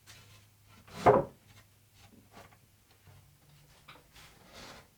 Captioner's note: wood clunks